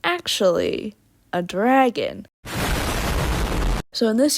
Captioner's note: explosion sound effect